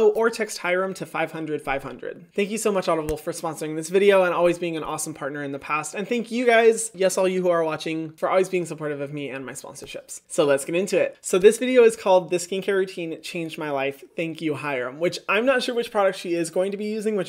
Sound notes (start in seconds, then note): none